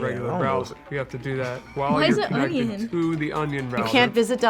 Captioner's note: laughs